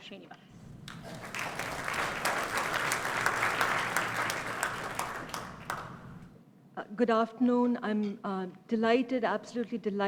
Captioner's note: applause